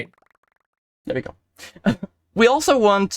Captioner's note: heh